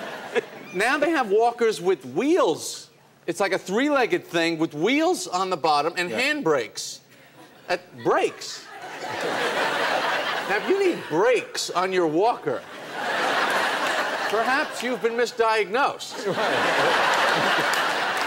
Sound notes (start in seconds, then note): 8.0 laughter; 12.7 laughter and clapping